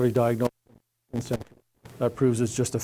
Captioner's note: mic cuts out